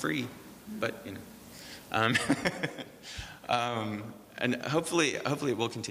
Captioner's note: laughs